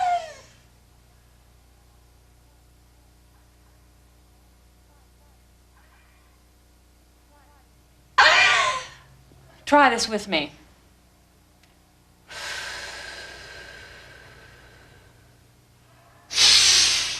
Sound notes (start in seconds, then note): 0.1 screaming; 12.2 breathing